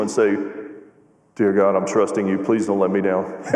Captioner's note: laughter